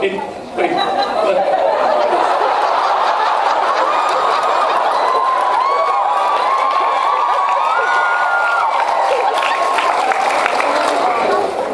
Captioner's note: laughing, inaudible; laughs, cheers, applauds